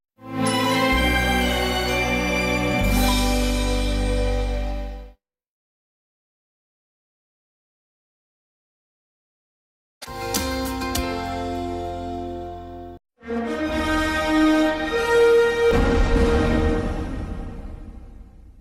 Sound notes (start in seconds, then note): 0.3 anticipating music playing; 5.5 silence; 13.3 bombastic fanfare playing